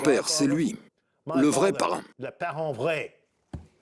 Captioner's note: French spoken audio